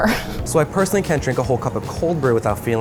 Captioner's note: laugh